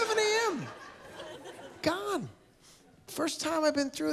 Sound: laughter

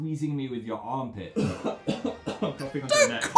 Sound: coughing

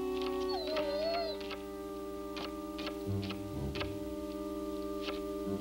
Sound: Shep whining and scratching at door

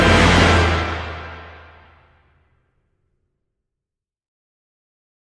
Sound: distant roar

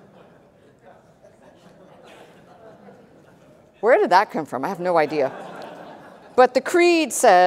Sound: chuckling

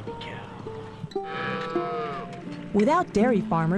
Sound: cow mooing

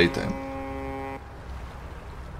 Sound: hooonk

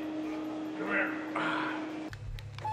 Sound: train whistle blows

